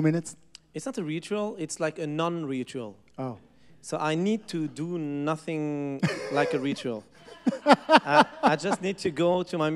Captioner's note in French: Rires